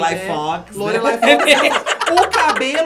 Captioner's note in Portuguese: risos